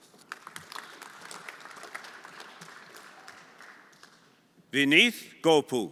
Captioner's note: everyone applauding